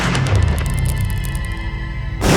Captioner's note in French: Bruit des perles sur le bitume